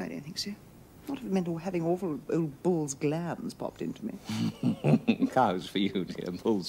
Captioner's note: they laugh